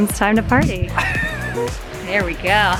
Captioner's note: laughing